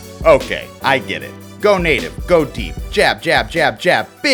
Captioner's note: voiceover